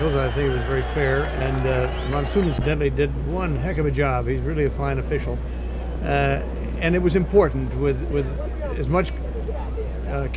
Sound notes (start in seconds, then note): 0.0 audience cheering; 5.5 atmosphere buzzing